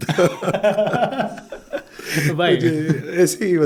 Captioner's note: laughing